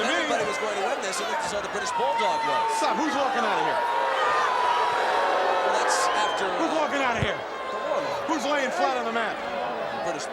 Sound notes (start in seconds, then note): 5.0 audience jeers